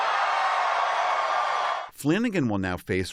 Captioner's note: cheering